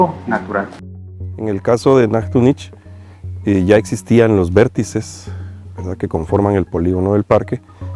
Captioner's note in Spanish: En español